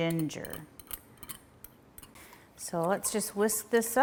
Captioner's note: whisk clinking